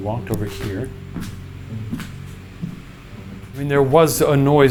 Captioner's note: footsteps padding